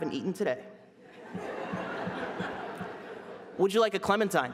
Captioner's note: laughter